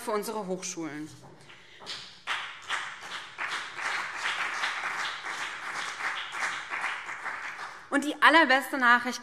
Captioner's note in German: Beifall BÜNDNIS 90/DIE GRÜNEN und CDU